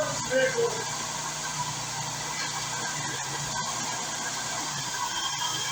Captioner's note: engine idles